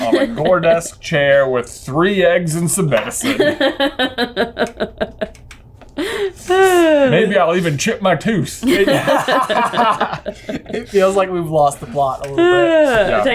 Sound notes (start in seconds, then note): 3.2 laughs; 8.6 laughing